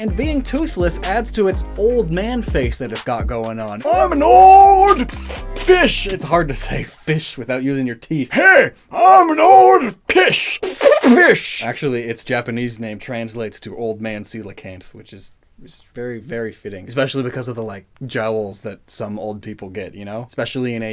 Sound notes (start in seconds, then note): 2.1 with lips covering teeth and an ‘old man voice’; 5.9 normal voice; 8.4 old man voice; 11.6 back to normal voice